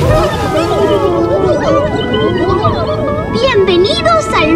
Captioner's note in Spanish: Sonido burbujas